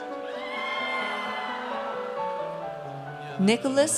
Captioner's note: audience cheers